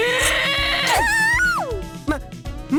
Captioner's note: panicked cry